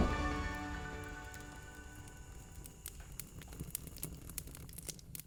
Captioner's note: fire crackling